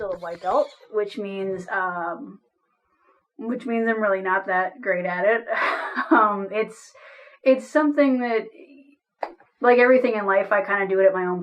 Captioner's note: laughs